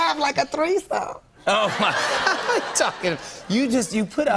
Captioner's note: laughter